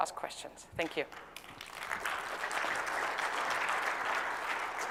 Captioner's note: applause